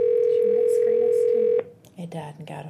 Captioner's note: whispering